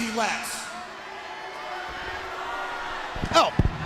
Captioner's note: crowd chatter